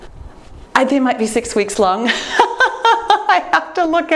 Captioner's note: laughs